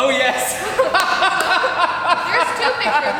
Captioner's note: loudly laughing